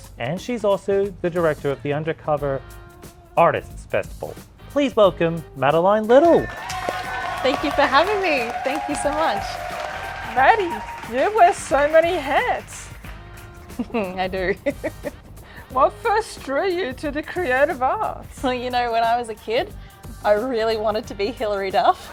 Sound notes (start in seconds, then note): 13.6 chuckles